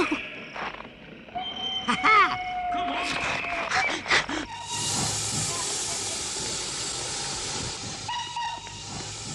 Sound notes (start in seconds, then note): 2.3 train whistle blows; 3.1 train hisses; 8.0 train whistle blows